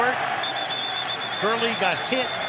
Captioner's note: whistle